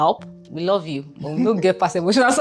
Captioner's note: laughs